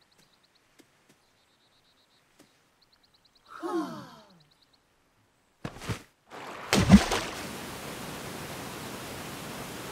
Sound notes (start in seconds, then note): 3.6 crowd sighs; 6.3 body splashes